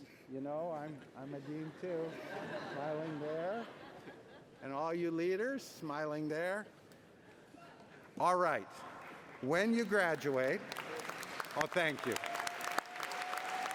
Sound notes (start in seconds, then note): 11.5 cheering